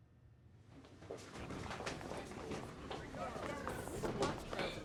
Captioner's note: indistinct chatter